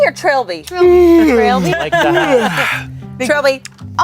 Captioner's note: yawns